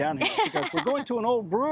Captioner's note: laughing